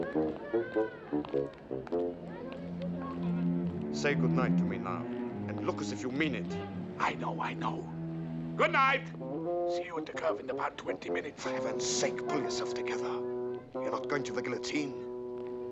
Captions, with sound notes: Say goodnight to me now, and look as if you mean it. [whispering] I know, I know. [shouting] Goodnight! See you at the curve in about 20 minutes. For heaven's sake, pull yourself together. You're not going to the guillotine.